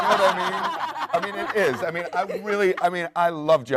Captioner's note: panel laughs